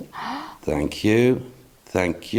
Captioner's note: gasps